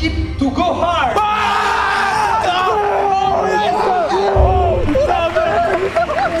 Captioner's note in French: cris de joies